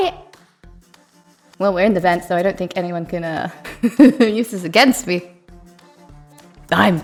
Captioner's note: chuckles